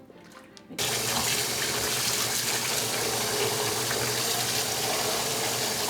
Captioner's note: water running